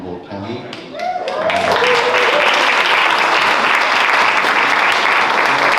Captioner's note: clapping